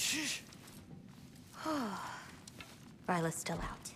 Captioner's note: exhale